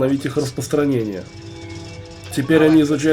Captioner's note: computer whirs